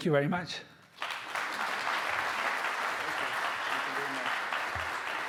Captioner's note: audience applauding